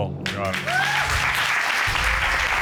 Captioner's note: audience cheers